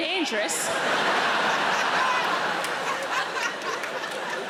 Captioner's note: audience laughing